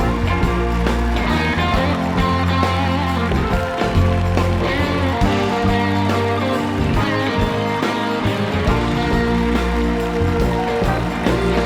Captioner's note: cheers and applause